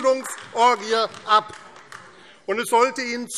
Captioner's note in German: Beifall AfD